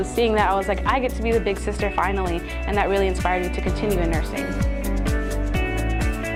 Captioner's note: none